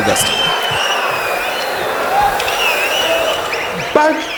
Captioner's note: wild applause and cheering for 22 seconds